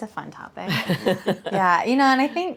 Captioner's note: chuckles